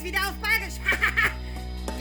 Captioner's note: 6000 year old suffered laugh